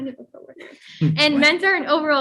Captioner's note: group member chuckles